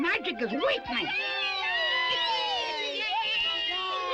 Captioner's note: all cheering